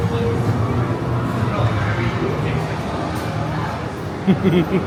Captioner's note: people chatter; laughs maniacally